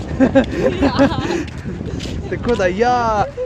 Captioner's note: laugh